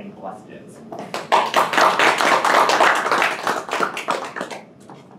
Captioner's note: audience applauding